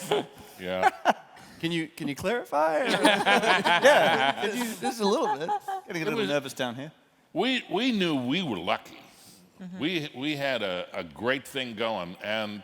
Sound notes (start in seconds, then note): 2.8 laughter